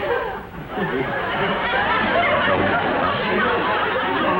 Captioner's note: audience laughs